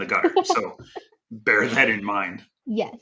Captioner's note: chuckling